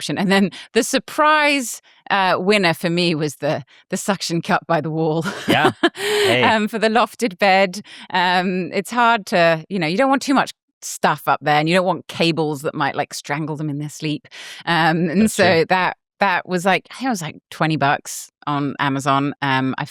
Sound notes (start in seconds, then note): 5.2 laughs